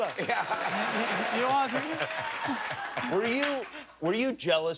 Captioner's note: laughter